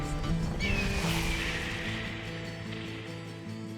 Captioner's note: hawk screeching